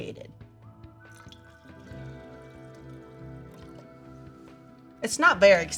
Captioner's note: solution trickling